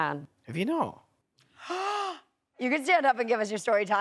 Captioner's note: gasps